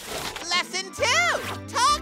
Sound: none

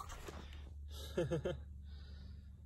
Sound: small laughter

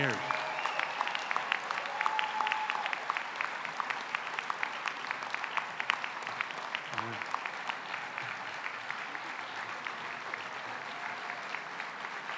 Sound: applause

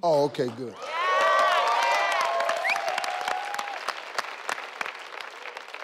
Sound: all clapping and cheering

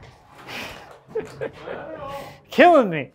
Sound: laughs

